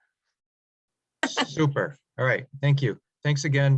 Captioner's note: chuckles